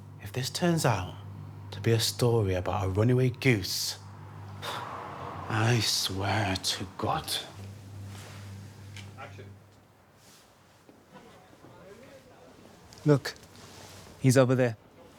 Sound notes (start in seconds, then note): 11.1 crowd chattering